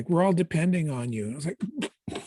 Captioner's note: gagging noise